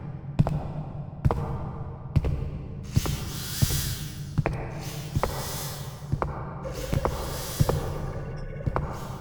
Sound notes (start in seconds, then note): 3.0 Anxiety wheezing